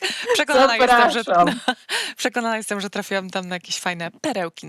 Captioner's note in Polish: śmiech